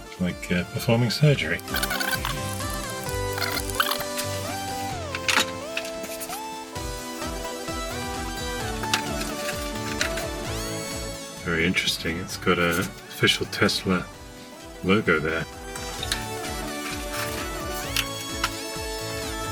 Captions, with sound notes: Like uh, performing surgery. (sped up audio squeaking) (upbeat electronic music) Very interesting, it's got a official Tesla logo there. (upbeat electronic music)